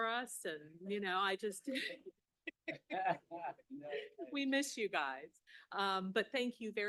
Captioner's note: laughing